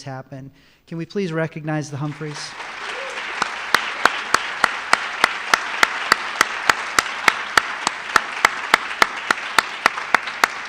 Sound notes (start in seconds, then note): 1.8 applause